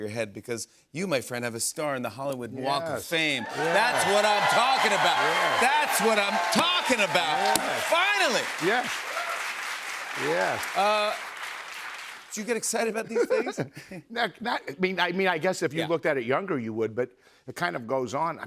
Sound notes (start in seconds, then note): 4.6 cheers and applause